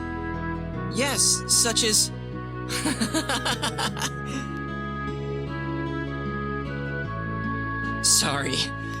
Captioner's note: laughs